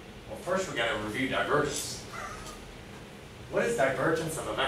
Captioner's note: laughs